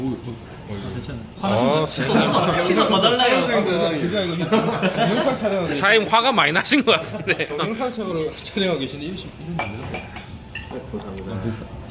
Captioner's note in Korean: 웃음